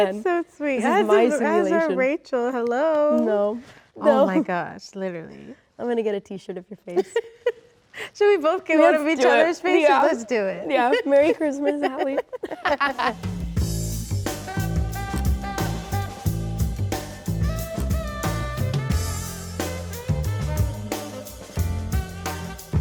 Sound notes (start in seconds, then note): 0.9 laughs; 6.9 laughs; 12.7 Rachel laughs; 12.7 laughs; 14.8 upbeat music